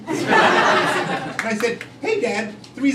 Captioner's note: crowd laughing